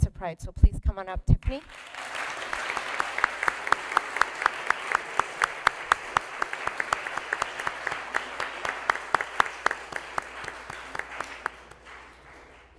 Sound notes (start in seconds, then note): 1.6 applause